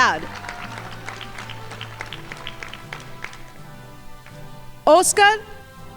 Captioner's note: crowd applauding